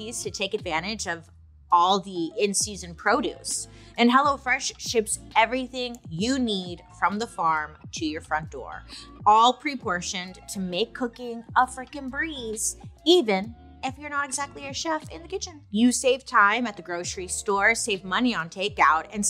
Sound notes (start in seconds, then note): none